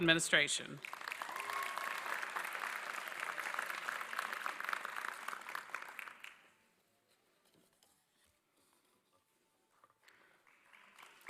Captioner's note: applause